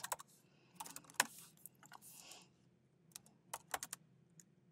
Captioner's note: keyboard clanking